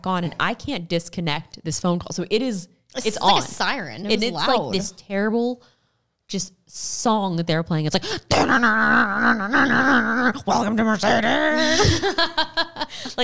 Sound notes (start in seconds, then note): 8.8 mimicking guitar; 11.4 laughs